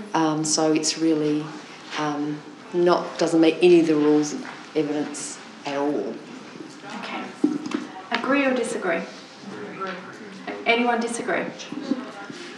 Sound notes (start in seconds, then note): 9.4 audience response